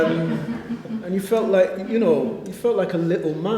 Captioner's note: laughter